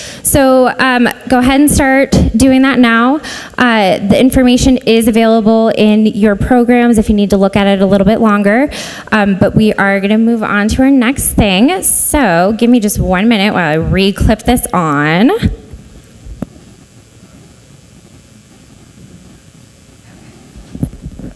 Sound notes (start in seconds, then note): none